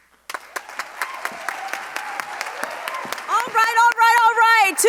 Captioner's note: audience applauding